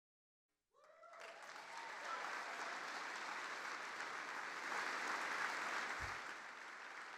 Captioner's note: audience cheering and applauding